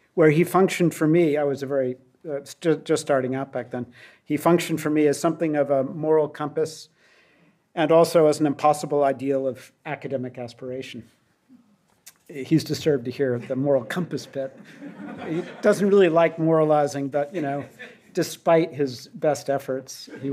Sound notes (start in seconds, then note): 13.3 audience laughs